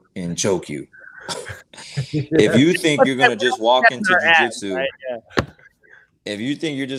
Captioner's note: laughing